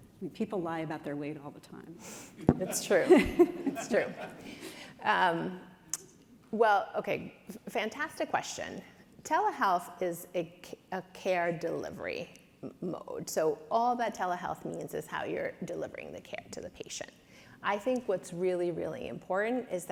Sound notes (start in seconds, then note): 2.4 chuckles; 2.6 audience chuckles